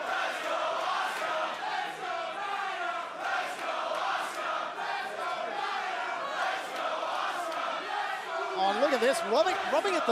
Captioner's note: crowd cheering